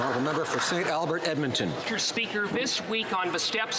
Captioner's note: some Applause